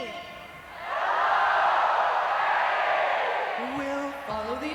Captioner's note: crowd replies